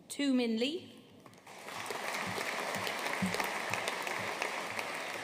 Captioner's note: audience applauding